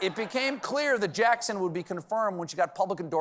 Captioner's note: laughter